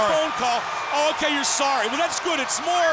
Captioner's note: crowd cheering